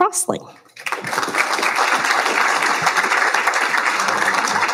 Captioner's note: applauding